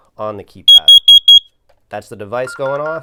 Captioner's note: alarm beeping